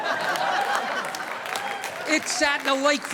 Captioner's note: audience laughing